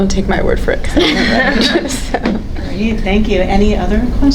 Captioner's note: panelists laughing